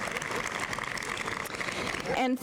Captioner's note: applause